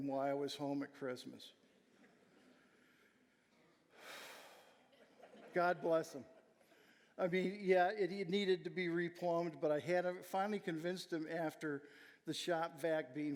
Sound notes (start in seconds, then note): 4.0 sighing; 5.0 audience laughing